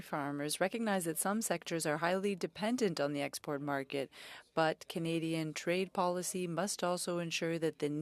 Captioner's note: speaking French